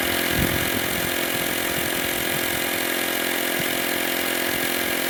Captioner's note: motor roar continues